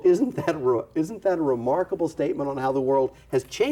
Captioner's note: chuckles